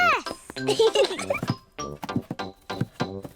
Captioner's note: both giggle